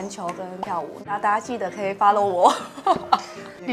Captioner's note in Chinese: 笑場